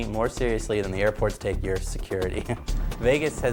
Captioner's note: chuckles